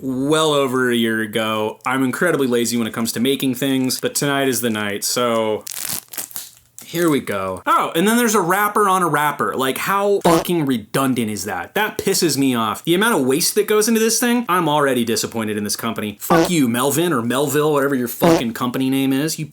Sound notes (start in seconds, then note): 5.6 wrapper noises